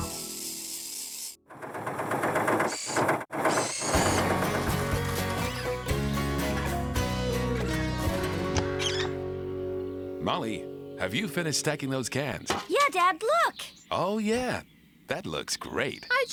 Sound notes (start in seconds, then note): 2.0 engine Running